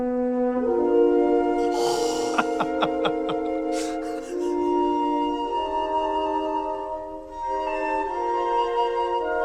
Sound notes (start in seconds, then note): 1.6 laughs; 4.7 slow music